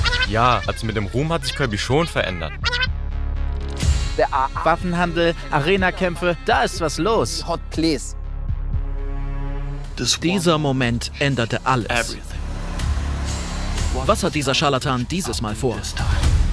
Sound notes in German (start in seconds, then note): 9.8 englisch; 16.3 Düstere Töne